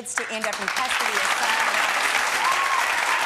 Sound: applause

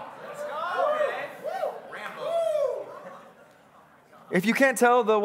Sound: congregants cheering

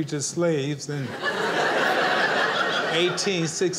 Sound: audience laughing

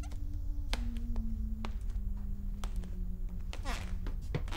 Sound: footsteps creaking; humming gets louder

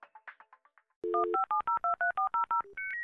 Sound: phone dialing

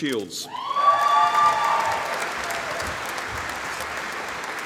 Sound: audience applauding

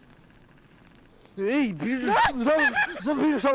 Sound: screams

